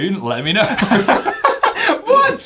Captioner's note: both laugh